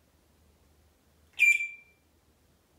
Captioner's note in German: beep sound